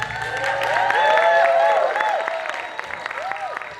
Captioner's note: applause